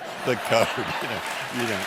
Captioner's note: applause